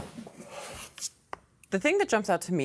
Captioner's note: cardboard rubbing